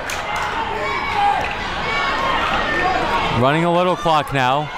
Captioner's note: crowd talking and yelling